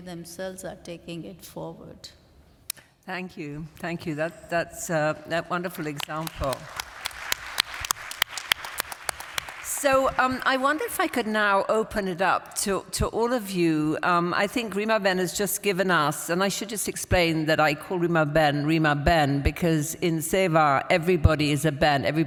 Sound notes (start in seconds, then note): 5.7 applause